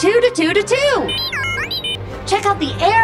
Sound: beeping

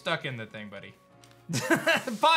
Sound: laughs

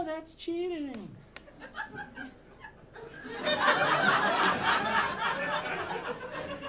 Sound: audience laughing

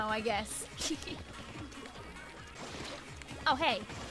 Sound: chuckles

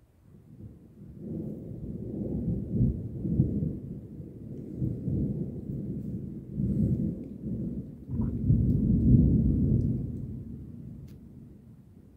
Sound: low distant thunder rumbles

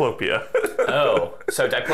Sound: laughing

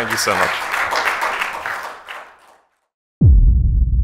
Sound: applause

